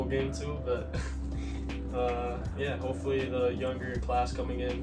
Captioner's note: laughs